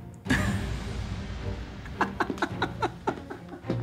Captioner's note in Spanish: Risas